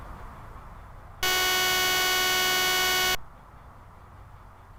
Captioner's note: alarm buzzing